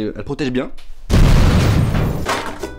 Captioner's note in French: Explosion